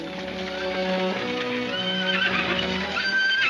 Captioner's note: horses whinnying